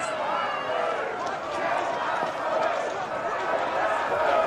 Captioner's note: people shouting